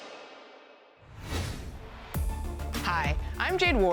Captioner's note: air whooshes